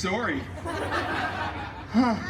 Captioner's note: guests laughing